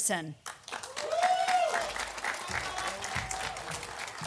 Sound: audience applauding

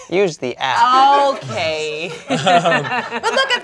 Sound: laughs

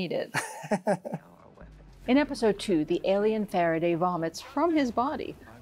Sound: laughs

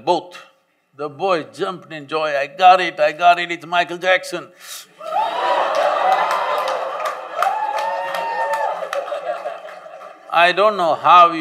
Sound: laughter

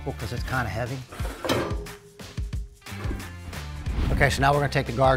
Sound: snorkel clangs

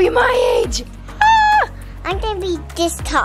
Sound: screams

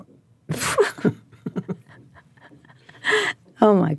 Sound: both laugh

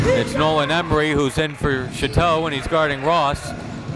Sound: none

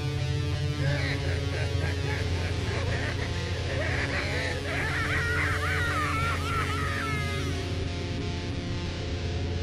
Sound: evil laugh still continues; more evil laughter

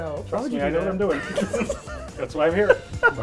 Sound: laugh

